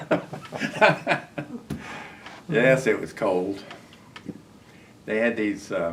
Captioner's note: laughter